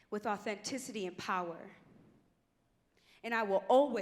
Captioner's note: none